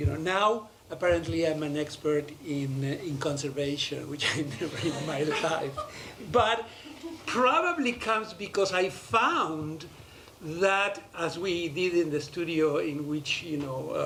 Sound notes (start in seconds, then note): 4.2 laughter